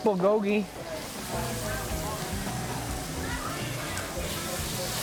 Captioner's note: food sizzling